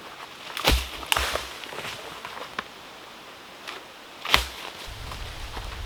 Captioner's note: brush and branches rustling